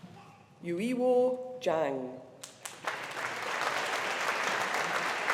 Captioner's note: audience applauding